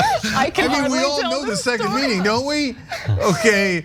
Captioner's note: laugh